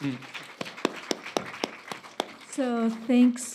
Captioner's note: applauding